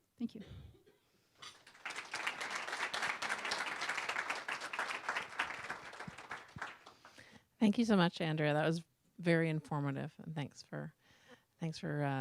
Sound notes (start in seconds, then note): 5.6 applause